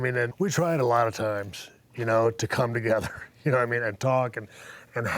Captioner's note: laugh